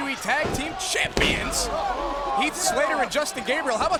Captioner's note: body thudding